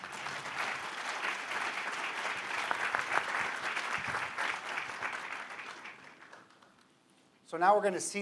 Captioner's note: applause